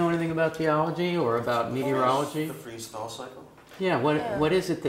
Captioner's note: laugh